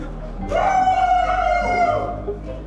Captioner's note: cheering